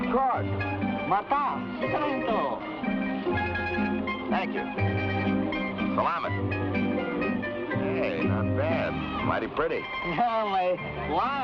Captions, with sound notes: - Of course. (man speaking in Tagalog) - Thank you. Salamat! Hey, not bad, mighty pretty. - (laughs) My wife.